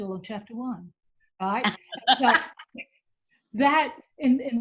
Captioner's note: laughter